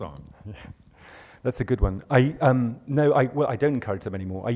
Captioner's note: voiceover